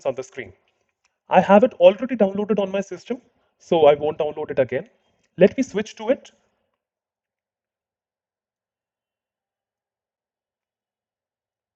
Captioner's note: slience